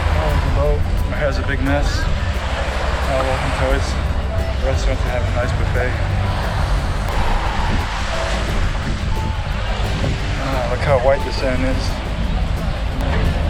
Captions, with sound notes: Whoa, there's the boat and my hair is a big mess. Oh well.. who cares.. The restaurant is going to have a nice buffet. (sound of waves) - Look how white the sand is.